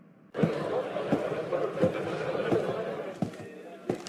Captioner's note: footsteps and chatter